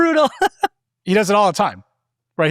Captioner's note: laughing